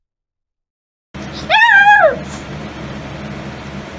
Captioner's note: Ella bakrs and howls